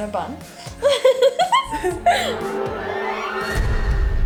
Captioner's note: both laughing; trembling music